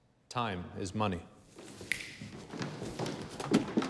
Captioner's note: snaps